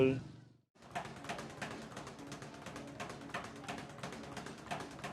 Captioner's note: speed bag rattling